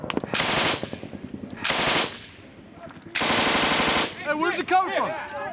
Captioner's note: gunfire